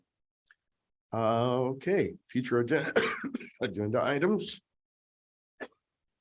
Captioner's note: coughs